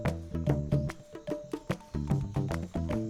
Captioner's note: rising jungle sounds